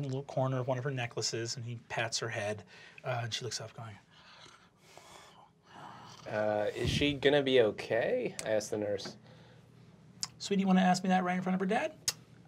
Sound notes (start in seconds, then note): 5.2 groans